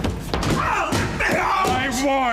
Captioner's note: banging on door